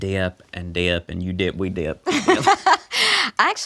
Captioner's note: both laugh